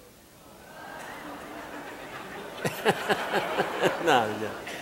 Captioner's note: audience laughing